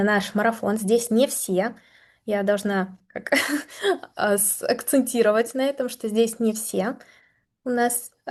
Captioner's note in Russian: смех